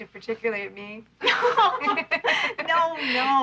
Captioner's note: laughing